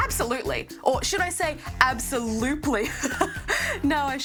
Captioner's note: laughs